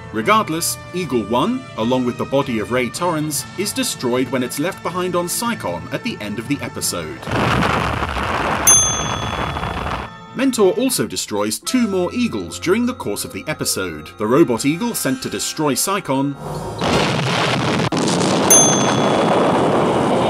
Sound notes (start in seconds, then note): 9.2 loud explosion; 16.7 loud explosion